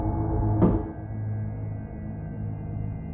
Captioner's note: door knock